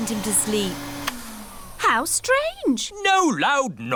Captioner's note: whirring stops